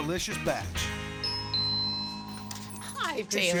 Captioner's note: door bell